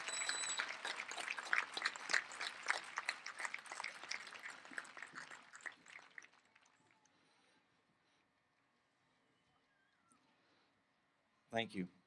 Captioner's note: applause